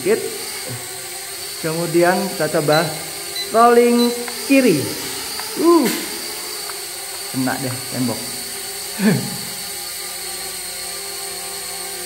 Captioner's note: chuckle